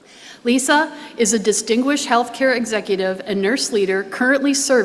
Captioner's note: none